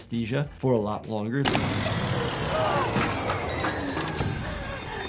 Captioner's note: machine whirs